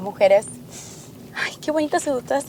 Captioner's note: deep Breathing